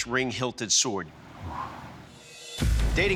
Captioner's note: exhales